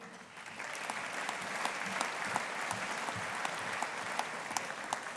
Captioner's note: audience applauding